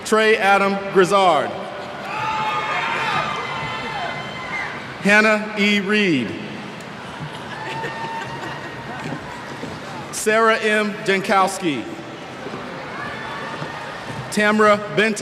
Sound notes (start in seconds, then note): 7.1 cheers